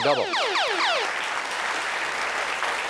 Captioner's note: applause